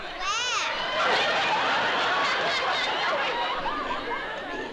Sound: laughter

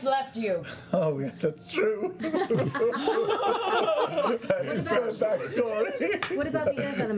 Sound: fake sobbing

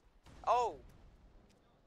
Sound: explosion

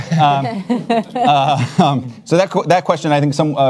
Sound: panelists laugh

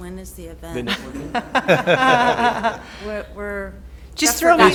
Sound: laughter

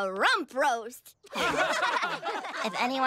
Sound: laughing

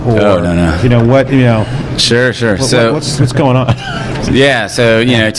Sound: laughs

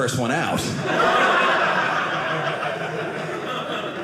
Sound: audience laughing

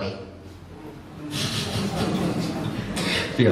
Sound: audience laughs

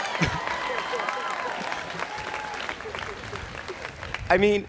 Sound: students cheering

